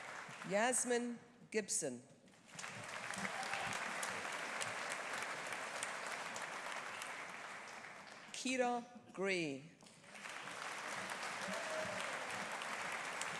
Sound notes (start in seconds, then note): 2.4 audience applauding; 10.0 audience applauding